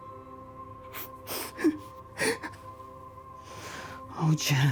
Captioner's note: Eric chuckling